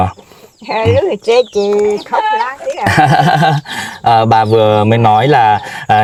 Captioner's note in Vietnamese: tiếng cười